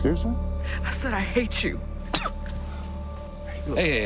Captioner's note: spits